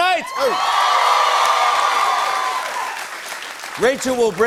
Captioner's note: cheers and applause